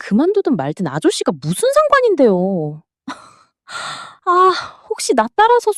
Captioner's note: gasp; sigh